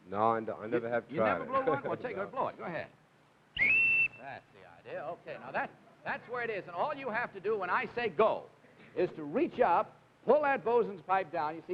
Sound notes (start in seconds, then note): 3.5 whistle blows